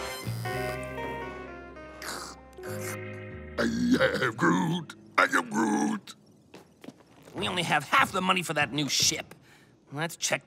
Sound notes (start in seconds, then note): 0.0 electric buzzing; 2.3 slurping; 4.0 playfully